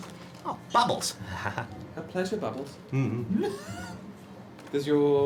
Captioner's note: laughs